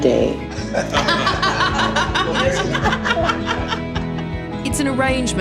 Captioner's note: all laugh